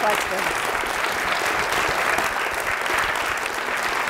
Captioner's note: audience applauds